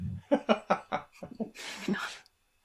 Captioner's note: laughter